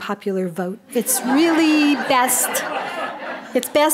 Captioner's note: audience laughing